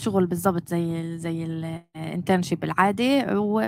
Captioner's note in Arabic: لغة أجنبية